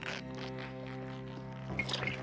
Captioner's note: ripping